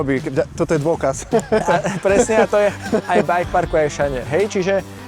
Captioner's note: laughs